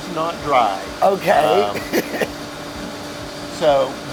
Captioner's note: laughs